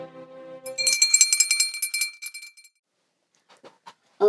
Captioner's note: bell ringing